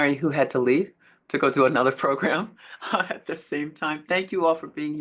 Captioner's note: chuckles